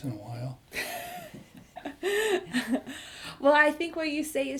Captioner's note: laughs